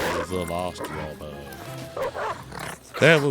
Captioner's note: dog growling and barking